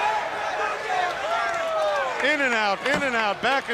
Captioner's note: crowd chatter